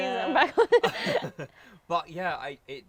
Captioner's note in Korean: 웃음